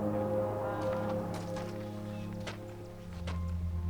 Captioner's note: gentle music; birds chirp